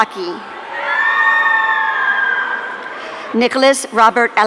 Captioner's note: audience cheering